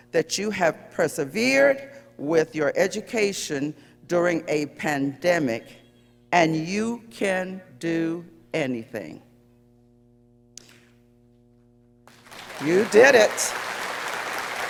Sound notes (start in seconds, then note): 12.0 audience applauding